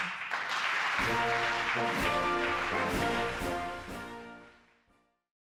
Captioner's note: applause